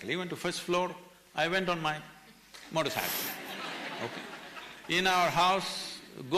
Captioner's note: laughter